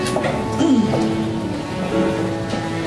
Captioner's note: clears throat